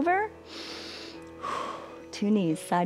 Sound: inhales and exhales

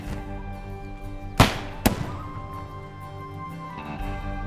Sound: gun shots

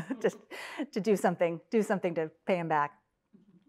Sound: laugh

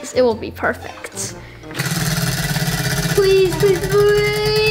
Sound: wheel clicking

